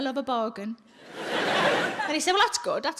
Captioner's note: audience laughs